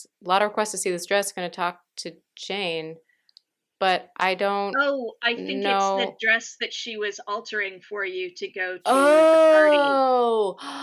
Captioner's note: gasps